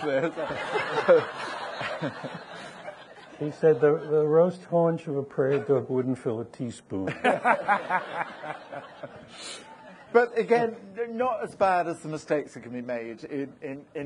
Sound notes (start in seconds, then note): 0.0 audience laughing; 7.1 audience laughing